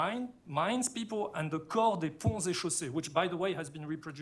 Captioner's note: french